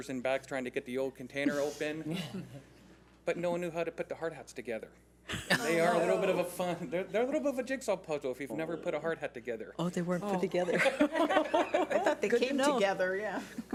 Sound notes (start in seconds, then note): 5.3 laughs; 10.6 laughs